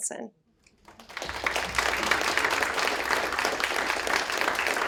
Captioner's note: applause